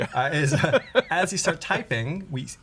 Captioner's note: laughter